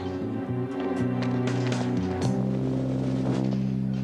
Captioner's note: none